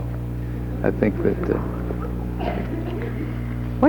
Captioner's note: audience laughs